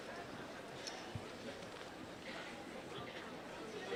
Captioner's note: none